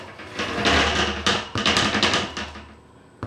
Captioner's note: tap tap